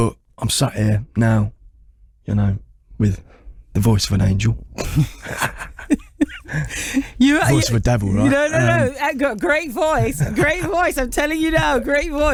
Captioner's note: chuckles